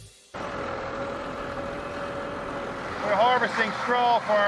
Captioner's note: machine whirring